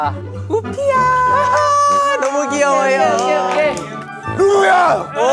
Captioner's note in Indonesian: tepuk tangan